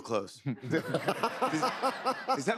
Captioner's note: laughter